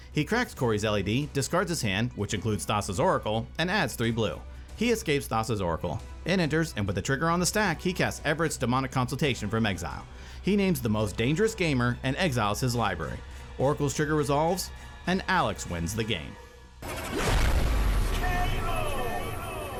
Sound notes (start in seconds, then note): 17.0 fist punches with a bang; 18.3 echoes